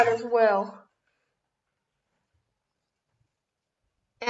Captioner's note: silence